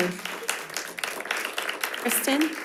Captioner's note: audience applauding